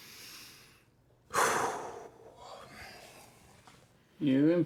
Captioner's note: Larry exhales